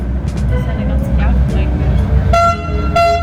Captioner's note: air horn sound; laugh; speaking German; air horn sound; speaking German